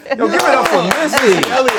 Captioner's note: laughing